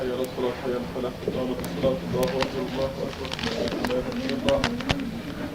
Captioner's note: speaking in foreign language